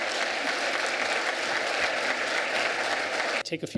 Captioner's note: applause